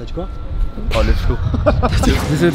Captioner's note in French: rire